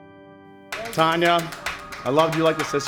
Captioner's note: clapping